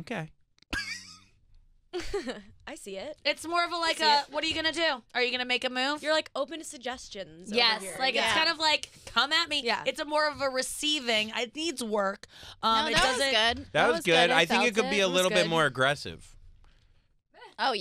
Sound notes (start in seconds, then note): 1.3 laughing